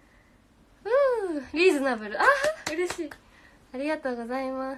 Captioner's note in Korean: 짝짝